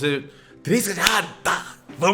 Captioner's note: claps